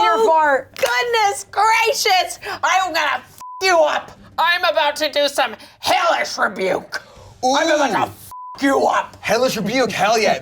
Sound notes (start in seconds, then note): 3.4 beep; 8.3 beep